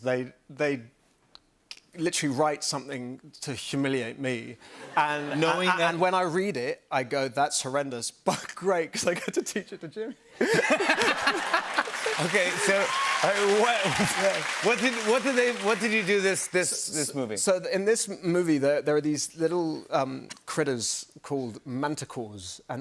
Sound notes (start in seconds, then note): 10.3 laughter; 10.9 cheers and applause